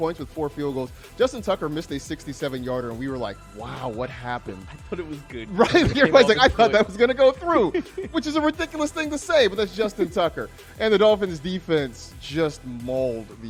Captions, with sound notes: JUSTIN TUCKER, MISSED THAT 67 UNIT -- "WHAT HAPPENED" QUESTION MIKE [LAUGHTER] THOUGHT IT WOULD GO THROUGH, WHICH IS RIDICULOUS, BUT IT'S JUSTIN TUCKER AND THIS